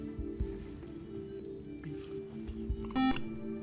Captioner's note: beep